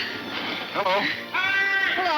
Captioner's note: shouting